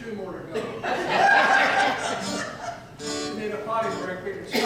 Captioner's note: audience laughs